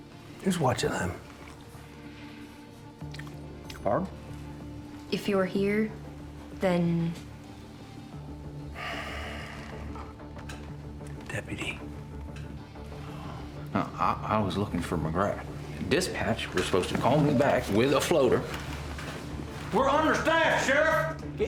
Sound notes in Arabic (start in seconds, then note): 1.8 موسيقى متوترة; 8.7 تنهدات; 12.5 موسيقى متوترة